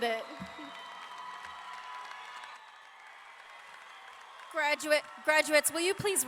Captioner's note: audience clapping and cheering